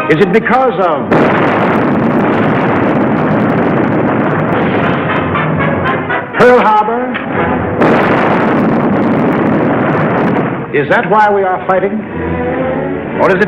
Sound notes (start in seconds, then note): 1.0 explosion roaring